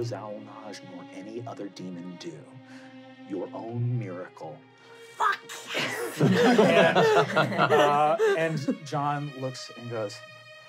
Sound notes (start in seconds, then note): 5.3 laughing